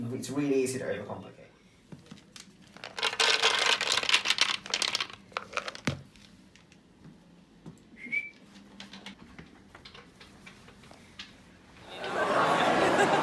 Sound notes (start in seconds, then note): 7.9 whistle